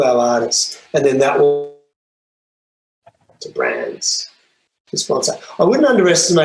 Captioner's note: audio distorts